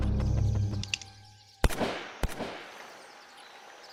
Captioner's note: hammer clicks; gun firing; suspenseful music continues